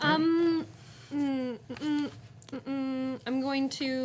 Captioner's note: murmuring